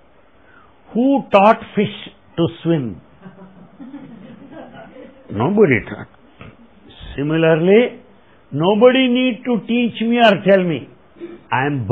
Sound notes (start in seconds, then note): 3.1 laughter